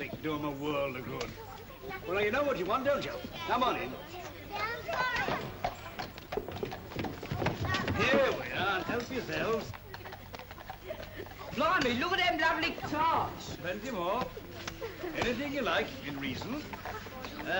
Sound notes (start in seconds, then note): 3.9 children's voices; 3.9 hooves clop